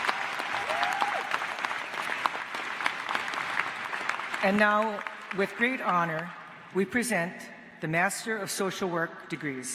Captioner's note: applause